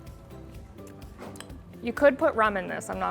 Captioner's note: lips smacking